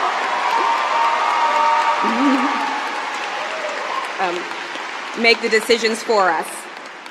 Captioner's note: cheering